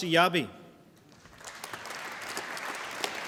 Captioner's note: applause